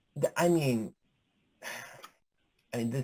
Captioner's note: sighs